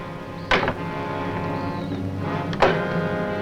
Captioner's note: ominous music; door bangs